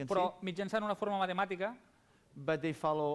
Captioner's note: non-english speech